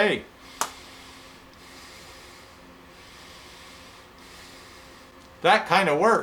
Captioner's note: sounds of inhaling and exhaling